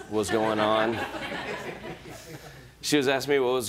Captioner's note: laughter